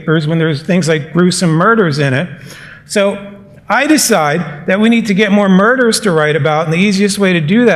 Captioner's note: none